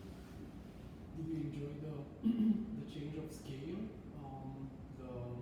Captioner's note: clears throat